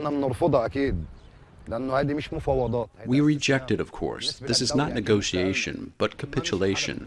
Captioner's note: through translator